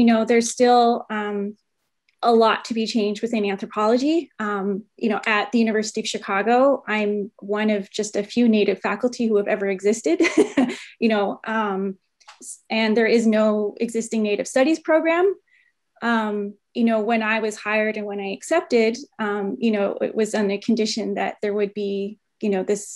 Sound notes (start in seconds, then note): 10.2 chuckles